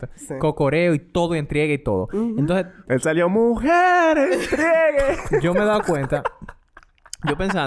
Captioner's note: laughs